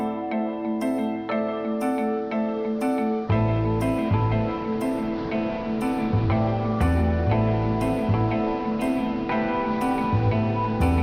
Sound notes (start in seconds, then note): 4.5 waves crashing